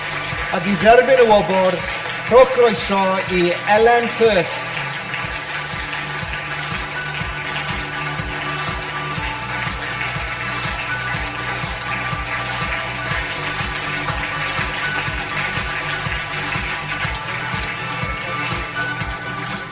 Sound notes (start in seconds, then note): 5.8 audience applause; 5.8 upbeat music